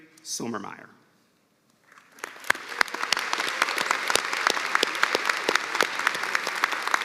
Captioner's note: cheers and applause